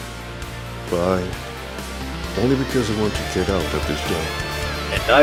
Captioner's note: loudly sighs